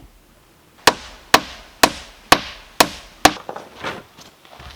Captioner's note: hammering